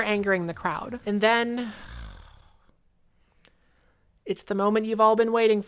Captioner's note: evasive groans